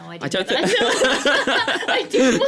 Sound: laughter

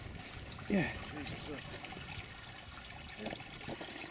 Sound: sound of water running

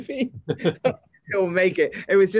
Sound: laughs

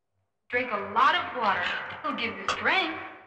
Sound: none

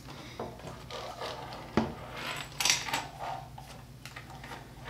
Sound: cable moving across table

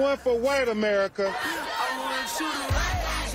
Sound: chanting

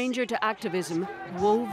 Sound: cheers and Applause

